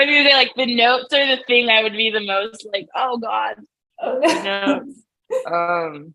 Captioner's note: laughs